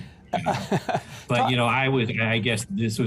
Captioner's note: laughs